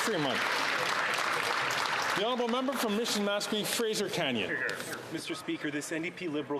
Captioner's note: some Applause